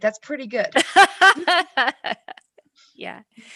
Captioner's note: laughs